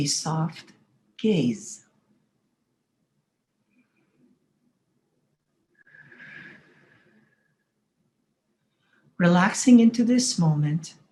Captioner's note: silence for breathing exercise